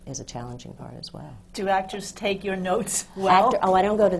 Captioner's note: laughs